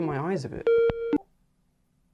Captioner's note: Skype ringtone cuts out